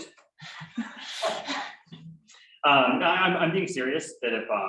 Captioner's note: laughter